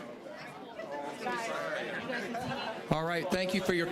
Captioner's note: general chatter